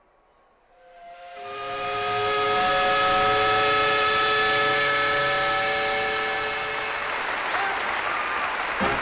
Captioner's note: steam whistle